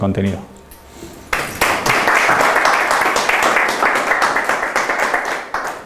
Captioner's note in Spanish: aplausos